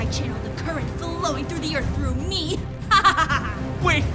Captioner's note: maniacal laughter